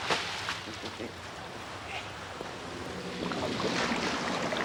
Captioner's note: laughing